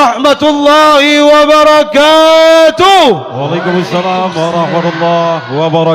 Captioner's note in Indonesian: berteriak